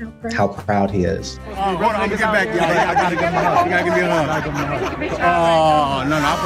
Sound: overlapping chatter

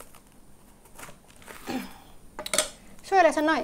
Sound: coughing

